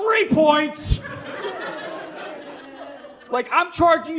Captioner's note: audience laughs